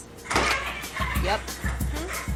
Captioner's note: slamming; upbeat music; chicken wildly clucking